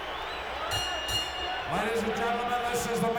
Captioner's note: bell rings